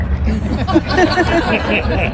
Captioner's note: laughter